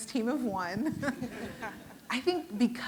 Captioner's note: audience laughing